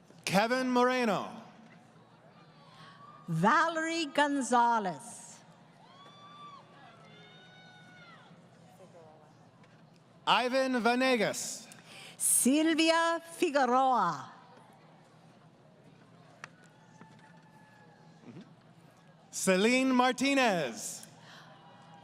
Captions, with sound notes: >> Kevin Moreno. >> Valerie Gonzales. [ Crowd Cheering ] >> Ivan Vanegas. >> Sylvia Figaroa. >> Celine Martinez.